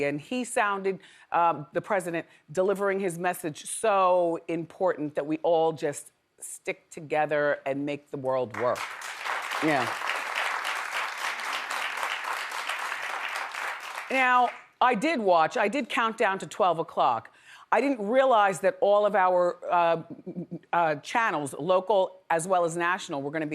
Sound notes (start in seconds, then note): 8.6 audience applauds